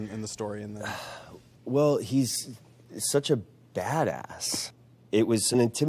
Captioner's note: sighs